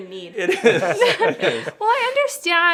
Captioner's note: laughing